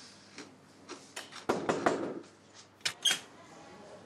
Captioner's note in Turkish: Kapı vuruluyor